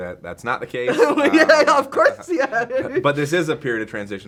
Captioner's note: laughing